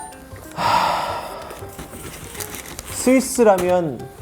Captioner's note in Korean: 한숨